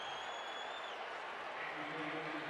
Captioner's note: crowd cheering